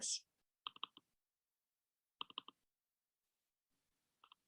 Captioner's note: mouse clacks